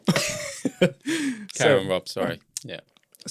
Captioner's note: laughing